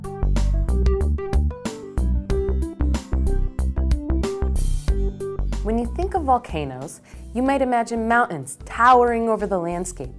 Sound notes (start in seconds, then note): 0.0 upbeat electronic music; 5.8 voiceover